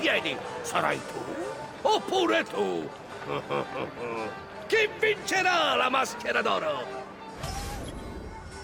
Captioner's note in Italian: laughs